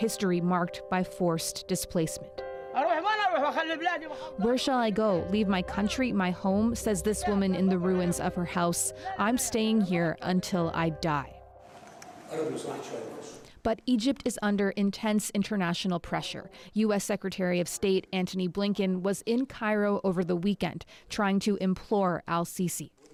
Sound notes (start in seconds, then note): 3.9 speaking alternate language